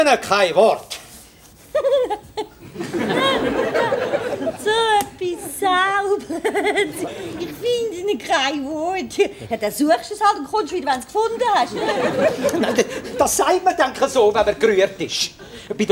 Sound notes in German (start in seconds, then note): 1.6 kichert